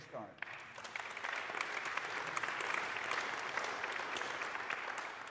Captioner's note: audience applauding